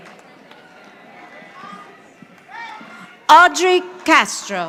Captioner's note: audience applauding